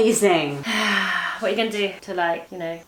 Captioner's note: sighs